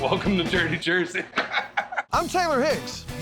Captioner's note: laughter